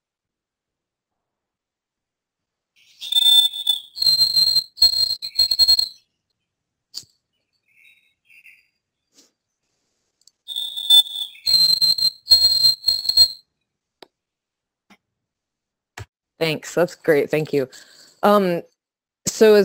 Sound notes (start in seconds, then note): 0.7 sound effect